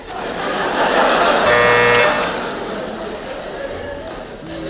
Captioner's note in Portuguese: campainha